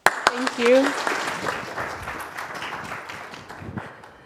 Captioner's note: applause